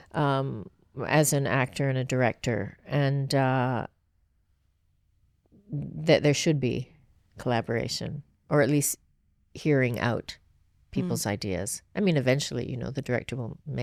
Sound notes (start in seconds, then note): none